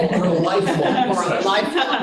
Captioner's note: laughter